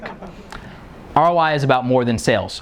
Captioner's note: laughing